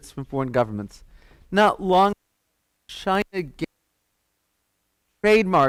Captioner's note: audio cuts out